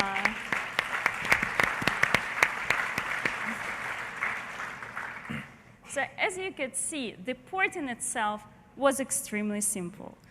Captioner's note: applause